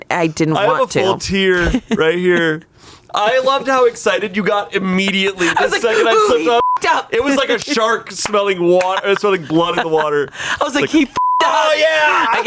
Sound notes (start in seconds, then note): 6.5 beep; 11.1 beep